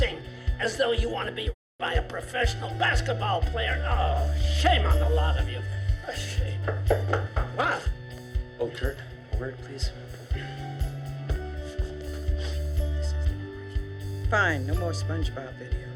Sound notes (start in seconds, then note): 6.7 knocking